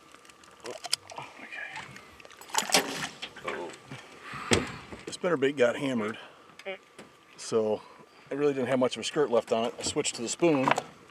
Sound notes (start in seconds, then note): 0.0 fish splashing; 4.4 fish splashing; 6.4 thunking